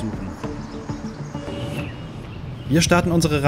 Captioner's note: haunting sounds